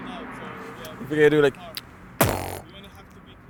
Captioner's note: blows into mic